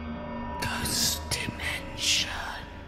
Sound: ghostly Voice

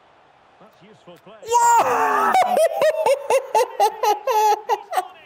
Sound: screams happily

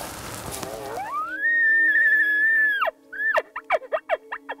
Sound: blows elk call

